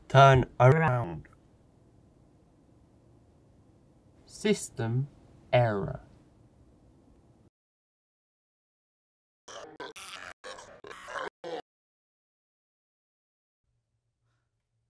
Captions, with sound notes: TURN AR...ND. System error. (Distorted screaming)